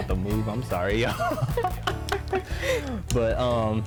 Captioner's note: both laugh